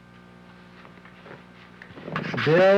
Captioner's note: chalk writing on slate board